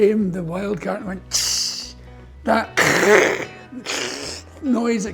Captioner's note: wild Cat Noises